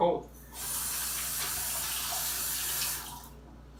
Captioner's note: water runs